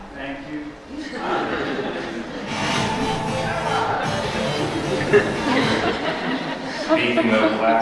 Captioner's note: laughter